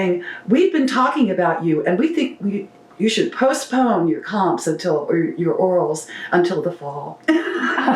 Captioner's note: laughter